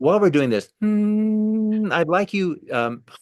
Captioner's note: humming